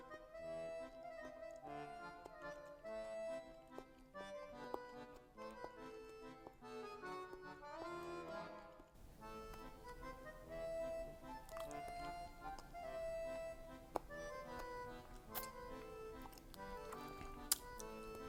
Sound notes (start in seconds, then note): 0.6 continues chewing; 4.4 chews more; 9.1 chewing intensifies